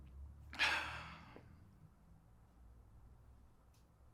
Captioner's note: sighs